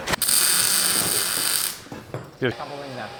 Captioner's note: welder crackling softly